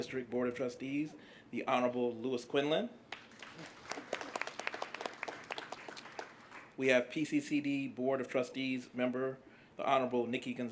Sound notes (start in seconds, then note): 3.1 applause